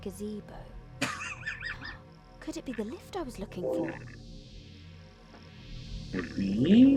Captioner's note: laughs